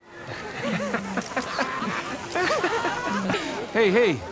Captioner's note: laughter